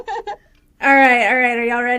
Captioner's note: laughter